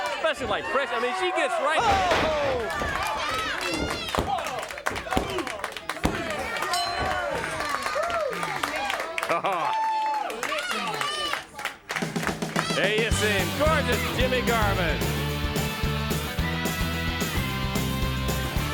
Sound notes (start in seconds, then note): 6.6 bell rings; 6.8 crowd cheering; 15.1 upbeat music